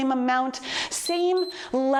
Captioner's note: timer beeps